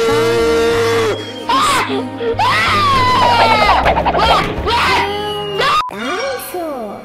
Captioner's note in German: Weinen und Schreien